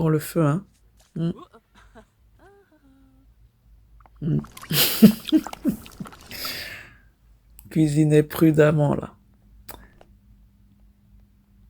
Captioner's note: laughs